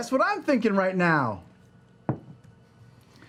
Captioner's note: silence